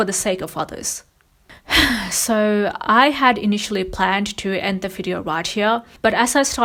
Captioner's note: sighs